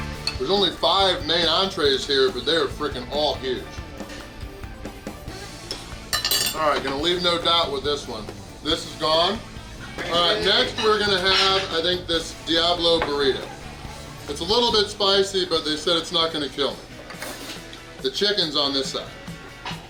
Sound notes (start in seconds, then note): none